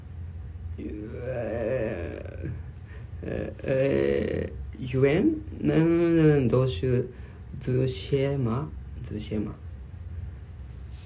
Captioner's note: in chinese